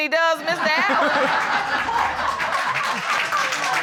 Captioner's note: audience laughing